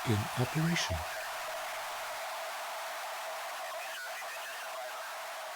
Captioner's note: radio feedback squelches